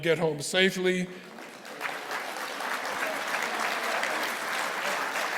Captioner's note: audience applauding